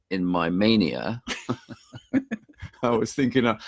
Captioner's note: both laughing